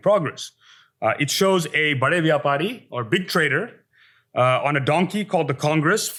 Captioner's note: hindi